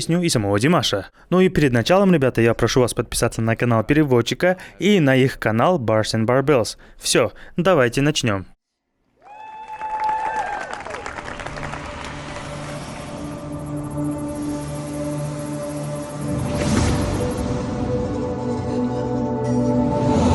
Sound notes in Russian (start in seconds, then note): 9.2 аплодисменты; 13.1 ликование